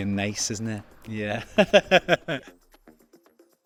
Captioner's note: laughs